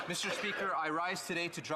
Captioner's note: applause